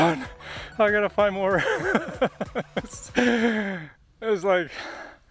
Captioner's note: laughing